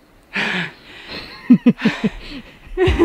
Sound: gasps

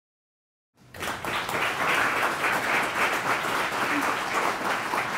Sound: applause

